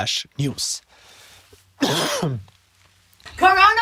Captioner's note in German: Husten